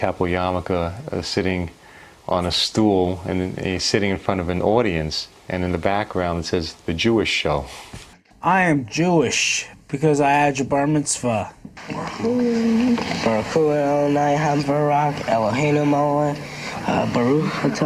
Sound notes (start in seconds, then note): 12.4 speaking in foreign language